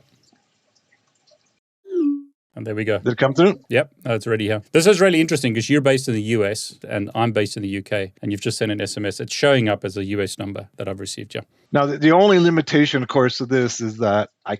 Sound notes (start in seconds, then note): 1.9 text send tone